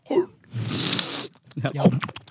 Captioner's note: chewing sounds